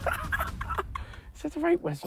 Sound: laughs

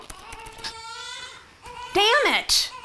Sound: distant baby crying

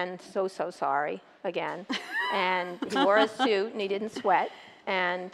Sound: laughter

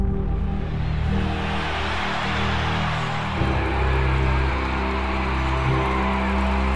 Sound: applause

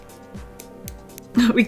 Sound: click, click click

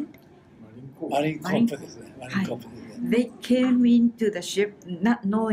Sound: foreign language

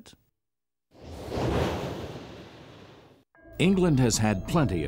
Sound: quick whooshing of air

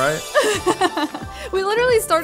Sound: laughs

